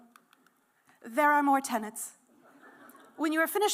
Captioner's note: laughter